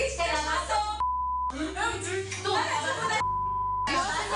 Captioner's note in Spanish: Bip